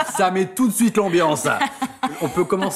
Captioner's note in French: rire